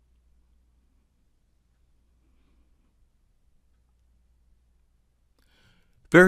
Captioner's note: silence